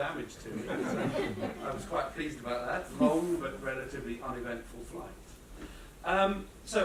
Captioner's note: laughter